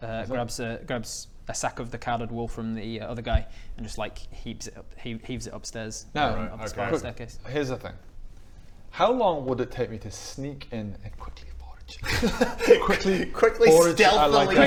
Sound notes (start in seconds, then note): 12.0 laughs